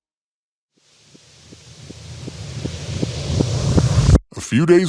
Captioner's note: rising hiss